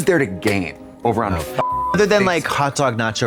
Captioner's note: beep